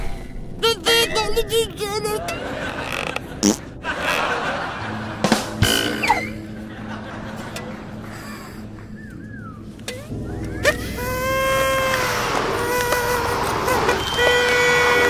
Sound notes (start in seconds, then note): 2.6 farting; 10.6 blows the trumpet